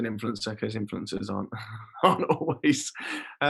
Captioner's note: laughing